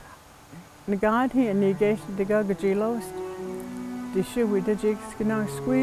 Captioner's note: woman speaking in foreign language